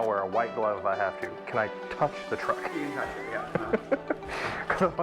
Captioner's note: laughter